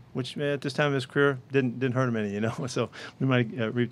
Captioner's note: giggles